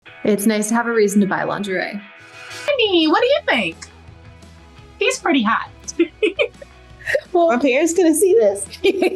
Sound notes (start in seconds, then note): 5.8 laughing